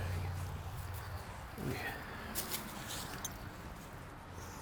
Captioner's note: traffic passes